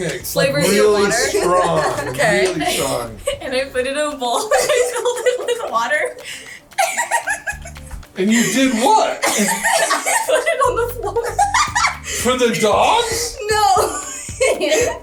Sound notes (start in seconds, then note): 6.8 giggling